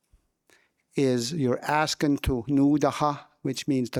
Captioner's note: speaking in</b> <b>Wolastoquey